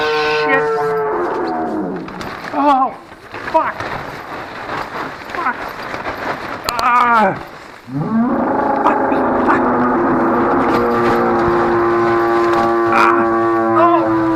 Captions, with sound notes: Shit! Oh Fuck! [Animal roars]